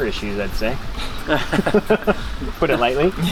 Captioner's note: laughing